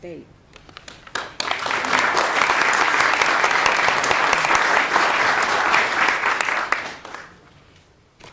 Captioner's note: clapping